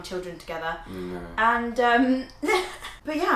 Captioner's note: laughing